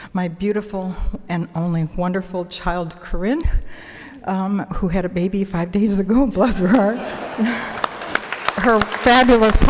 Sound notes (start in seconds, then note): 6.5 audience laughing; 7.6 applause